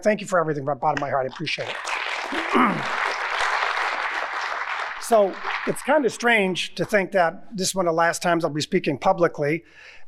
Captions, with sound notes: thank you for everything from the bottom of my heart. I appreciate it. (audience applauding) So it's kinda strange to think that this is one of the last times I'll be speaking publicly